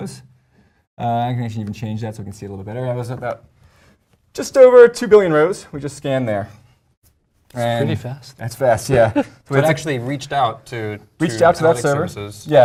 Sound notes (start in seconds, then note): 8.9 laugh